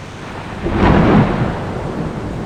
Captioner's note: loud Thunder Crack